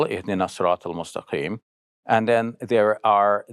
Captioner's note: speaks Arabic